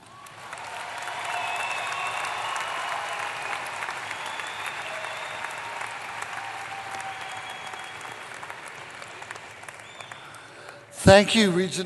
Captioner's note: applause